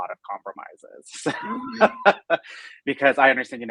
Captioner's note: laughing